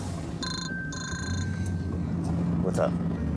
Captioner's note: phone ringing